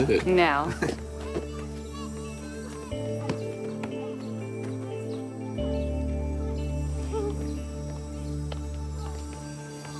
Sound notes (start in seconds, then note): 0.6 kids chattering